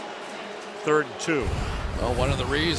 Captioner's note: pa announcement